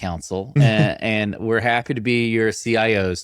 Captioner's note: chuckling